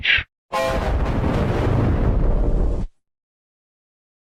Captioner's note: 3D Giga Shadow Windows XP Shutdown Sound